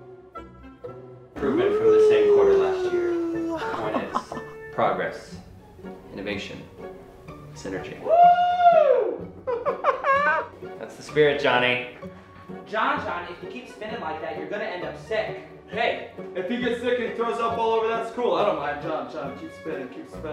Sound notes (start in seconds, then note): 9.4 laughing